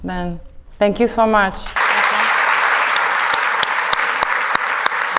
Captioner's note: audience clapping